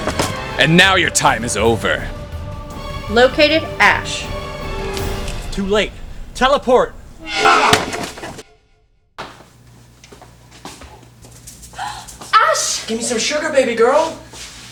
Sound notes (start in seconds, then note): 7.2 teleport noise and attack sound; 11.7 happy exclamation